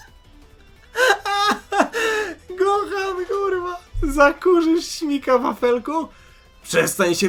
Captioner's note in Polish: śmiech